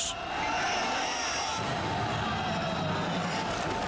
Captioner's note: crowd shouting